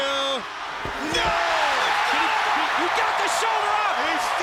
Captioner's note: crowd cheering